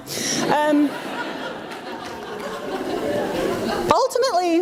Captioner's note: audience laughs